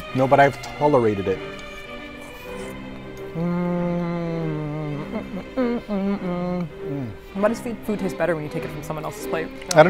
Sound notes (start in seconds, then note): 1.7 dramatic music; 5.0 melodic humming